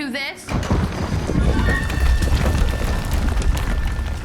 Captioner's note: rumbling